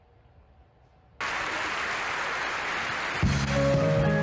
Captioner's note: applause